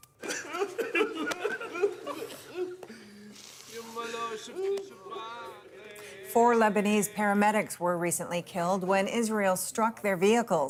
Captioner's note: crying